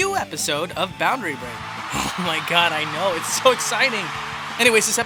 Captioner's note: audience cheers